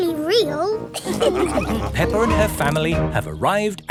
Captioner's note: all laughing